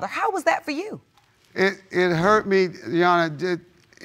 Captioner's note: stammering